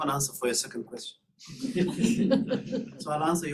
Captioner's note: laughter